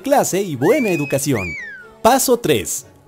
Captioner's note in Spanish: Chiflido